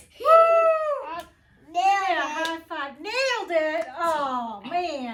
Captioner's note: clap